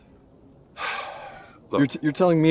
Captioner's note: Chuck sighs